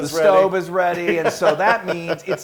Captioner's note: laugh